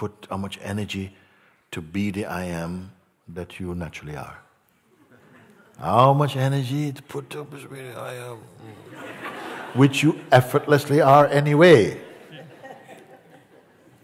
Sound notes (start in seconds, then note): 8.6 Lachen